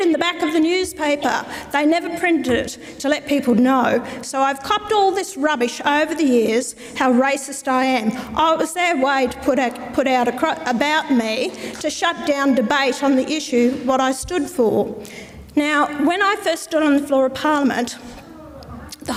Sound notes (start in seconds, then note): none